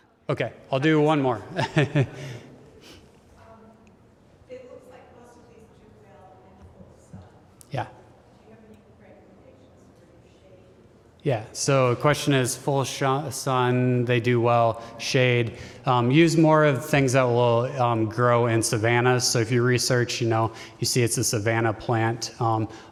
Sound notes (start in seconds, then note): 1.4 laughter